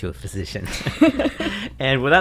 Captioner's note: laughter